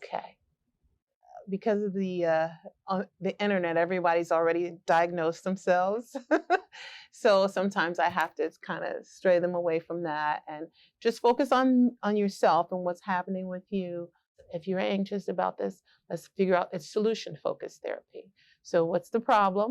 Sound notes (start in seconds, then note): 6.1 laughter